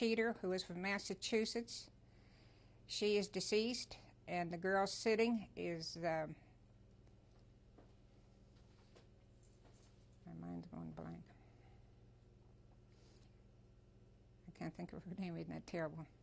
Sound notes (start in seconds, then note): 11.3 pauses for 3 seconds